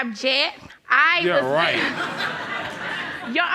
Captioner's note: audience laughs